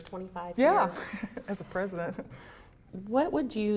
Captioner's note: laughter